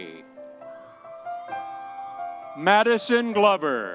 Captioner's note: audience cheering